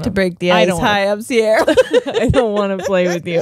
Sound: both laughing

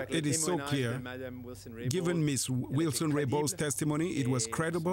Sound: speaking french

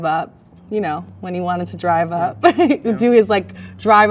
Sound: laughs

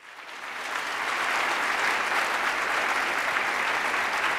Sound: attendees applauding

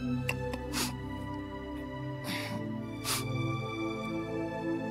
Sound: sniffling

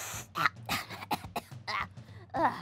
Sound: coughs

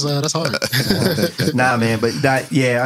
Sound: laughing

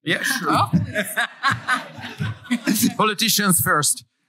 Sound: laughter

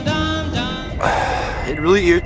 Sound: exhales soul

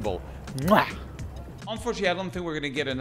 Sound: kissing noise

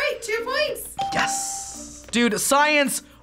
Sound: ding

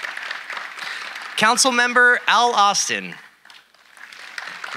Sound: audience applauding

